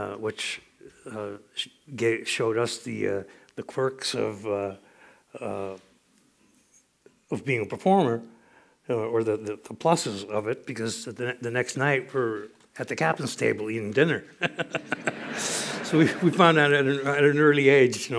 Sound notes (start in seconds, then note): 14.4 laughter